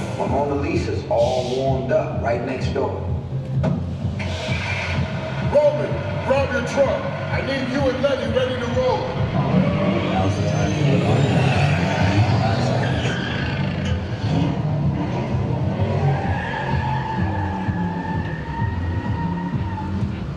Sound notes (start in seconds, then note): 0.0 upbeat music plays; 9.6 engine rumbles; 16.1 tires squeal